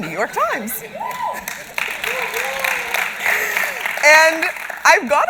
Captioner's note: applause and cheering